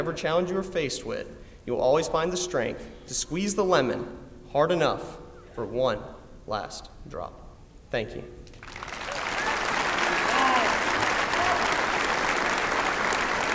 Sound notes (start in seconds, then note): 8.5 applause